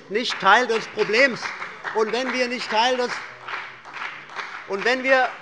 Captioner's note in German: Beifall bei dem BÜNDNIS 90/DIE GRÜNEN und bei Abgeordneten der SPD